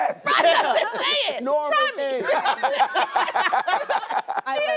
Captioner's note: all laugh